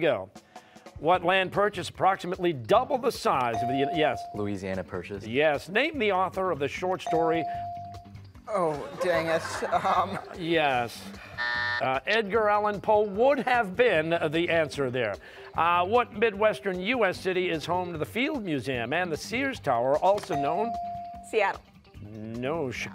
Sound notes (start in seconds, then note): 8.6 laughter; 11.2 buzzer